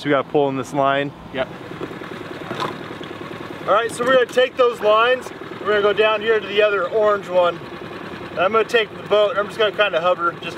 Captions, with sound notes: So we got pull in this line. - Yep. (boat engine vibrating) All right. So we're gonna take those lines. We're gonna go down here to the other orange one. I'm gonna take the boat. I'm just gonna kind of hover